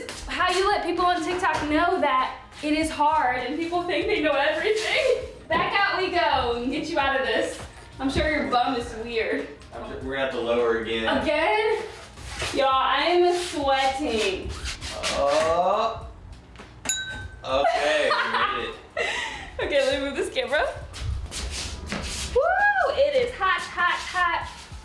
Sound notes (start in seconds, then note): 17.5 laughing